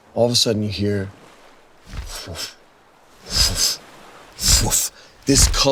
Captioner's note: imitates wings flapping